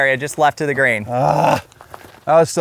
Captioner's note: groans